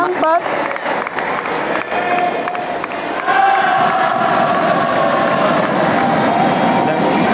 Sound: applause

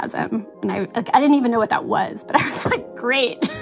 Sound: laughs

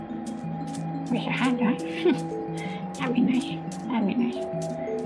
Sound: chuckles

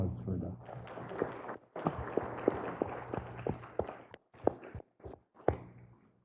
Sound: applause

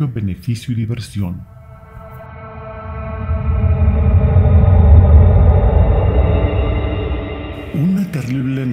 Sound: spooky soundscape

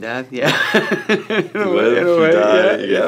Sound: Michael laughs

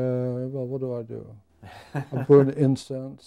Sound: laughing

